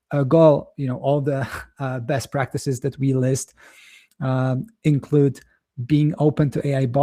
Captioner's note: chuckles